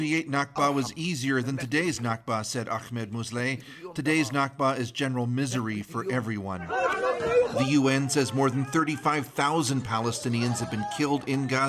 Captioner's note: speaking alternate language